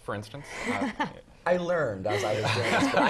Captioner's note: laugh